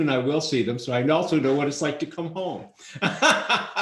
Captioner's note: laughs